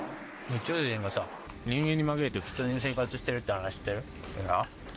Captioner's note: diner speaking in Japanese